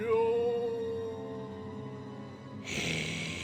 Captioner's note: growling